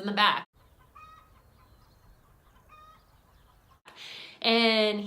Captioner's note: chicken clucking